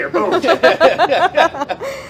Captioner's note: laughing